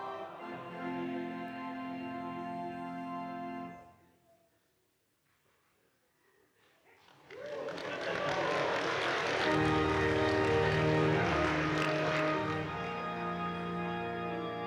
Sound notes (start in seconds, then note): 7.0 audience applauding; 10.3 organ music playing